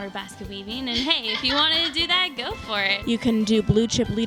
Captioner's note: laughter